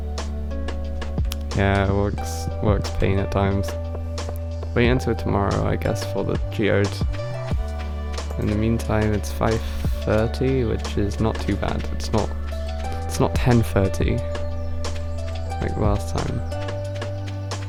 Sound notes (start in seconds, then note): none